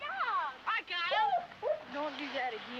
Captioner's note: dog whining